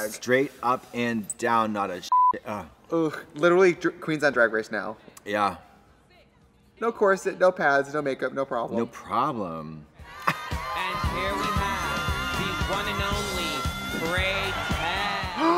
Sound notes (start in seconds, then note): 2.1 beep; 10.5 laughs